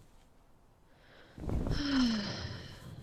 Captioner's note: sigh